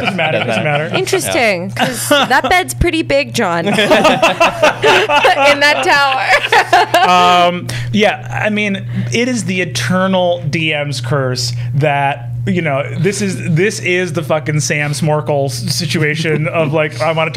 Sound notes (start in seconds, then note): 3.6 laughter